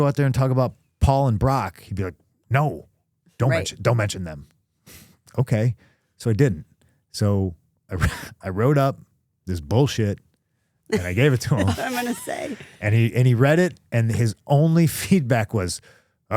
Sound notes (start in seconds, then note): 7.3 laughs